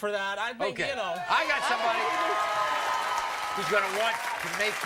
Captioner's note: audience cheering and applauding